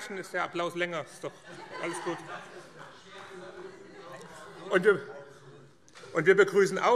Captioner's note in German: Beifall - Heiterkeit